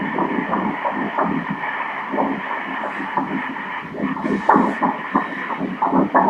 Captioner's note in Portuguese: batimentos cardíacos